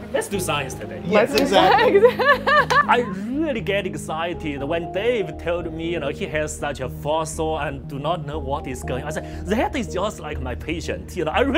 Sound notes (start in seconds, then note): 3.2 laughter